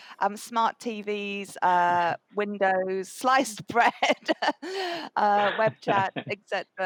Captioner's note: laughs